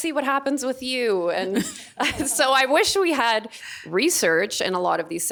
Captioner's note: laughing